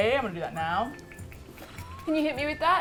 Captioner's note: spritz spritz spritz